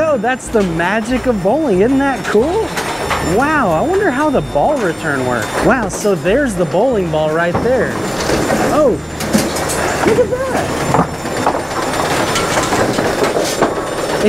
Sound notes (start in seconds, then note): 8.1 bowling ball thuds; 10.8 machine whirring